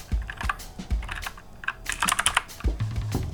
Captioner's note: keybord sounds